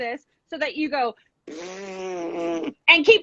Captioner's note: blows raspberries